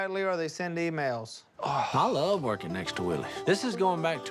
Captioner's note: sighs